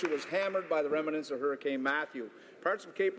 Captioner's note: applause